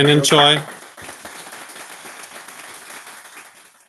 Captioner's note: applause